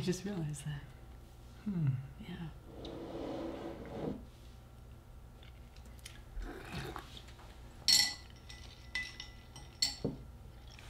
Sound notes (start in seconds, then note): 2.6 cup scraping across table; 8.2 ice clinking